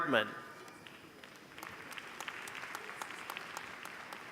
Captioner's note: applause